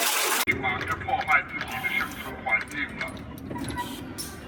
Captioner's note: robotic dinosaur talking